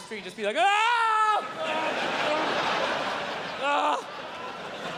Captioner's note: screams and groans